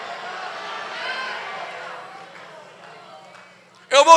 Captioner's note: applause